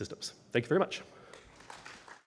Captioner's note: applause